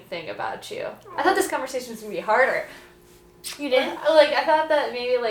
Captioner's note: smooch!